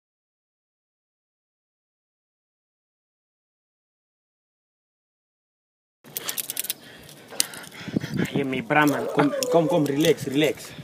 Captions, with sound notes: (Knife rattling) (Poxa Panting heavily) Please bro come on relax, relax